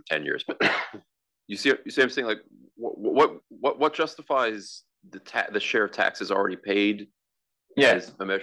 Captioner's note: cough